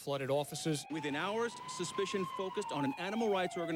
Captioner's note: sirens wailing